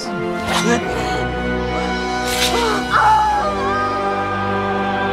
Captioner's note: gasps, screams